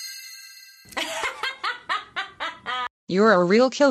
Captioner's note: laughing